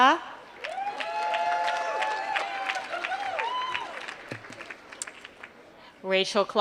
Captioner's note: applause